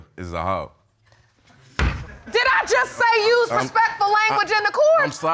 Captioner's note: gavel bangs